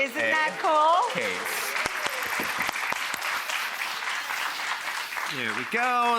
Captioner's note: audience clapping